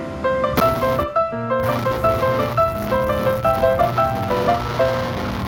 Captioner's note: ultra sonic noise